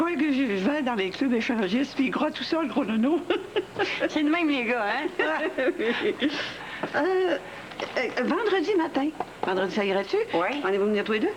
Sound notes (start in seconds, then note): 3.5 Rires